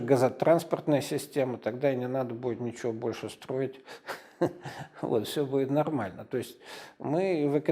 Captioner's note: haha